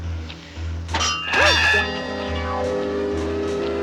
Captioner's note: clanging